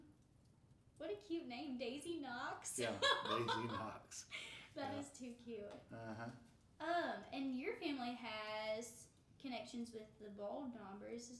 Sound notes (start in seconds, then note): 2.8 laughing